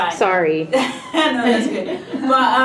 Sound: laughing

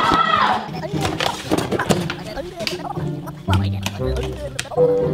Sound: gibbering

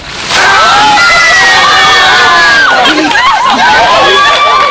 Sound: screams and cheers

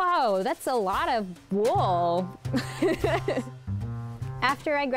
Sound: laughs

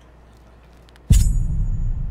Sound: dramatic sound

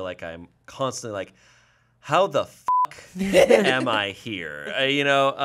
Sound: beep

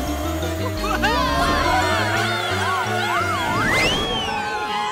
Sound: screaming

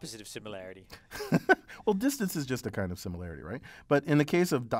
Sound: laugh

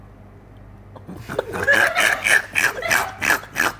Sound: snorts

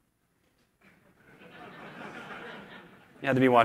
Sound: laughter

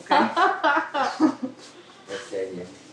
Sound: both laughing

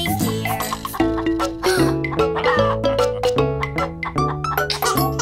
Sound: kid gasping; kid chuckling

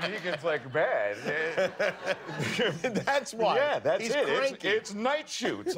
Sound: laughter

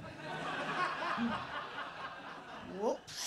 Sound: laughter

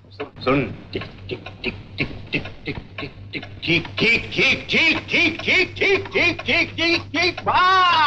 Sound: imitates clock ticking

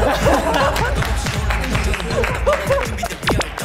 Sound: A round of applause pouring on his solo stage

